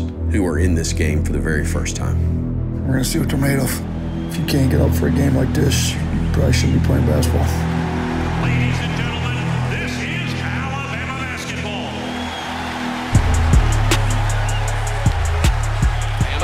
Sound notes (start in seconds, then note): 12.3 crowd cheers; 13.3 hip hop music